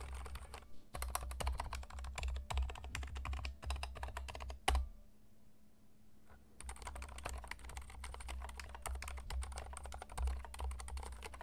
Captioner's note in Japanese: 打鍵音